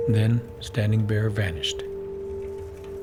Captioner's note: wagons traveling